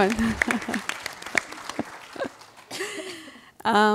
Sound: applause

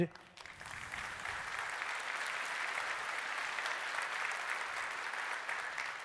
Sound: applause

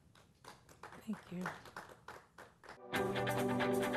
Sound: applause

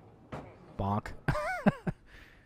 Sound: laughing

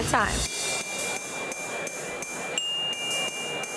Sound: bells chime

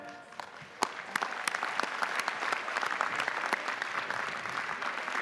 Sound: audience applauding

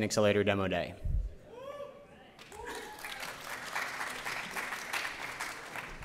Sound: cheering, applause

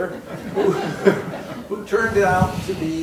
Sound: laughing

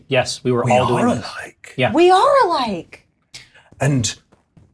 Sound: deep voice

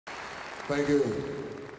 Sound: audience applauding

